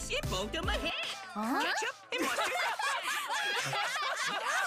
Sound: laughing

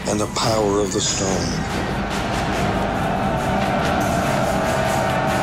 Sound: soldiers shouting

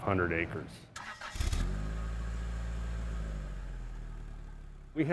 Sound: car engine starting

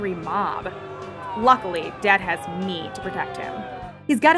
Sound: angry mob arrives

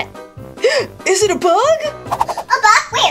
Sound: Catboy gasping

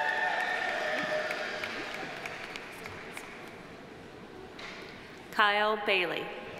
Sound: audience cheering; audience applauding

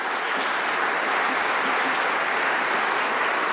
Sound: applause

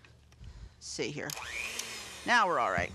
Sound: mixer mixing

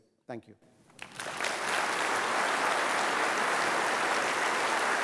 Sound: applause

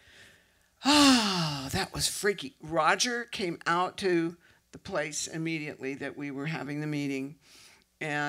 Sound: sigh

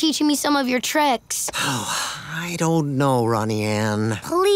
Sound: sighing

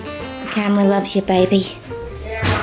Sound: in a bad British accent

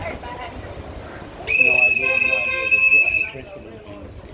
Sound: more whistles being blown

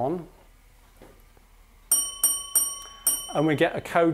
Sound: the bell - three rings, a pause.one ring

